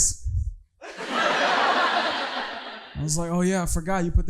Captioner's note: audience laughing